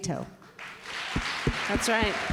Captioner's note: applause